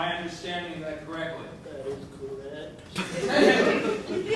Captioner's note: in a feeble whisper